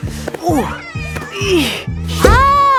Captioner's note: grunting